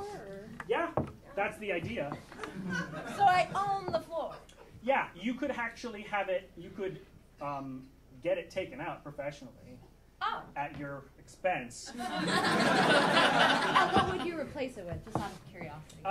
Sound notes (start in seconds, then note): 11.9 audience laughing